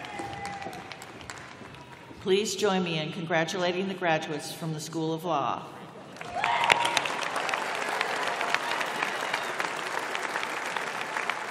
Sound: applause

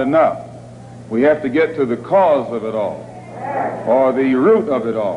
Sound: crowd concurs

